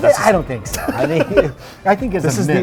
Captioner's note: laughs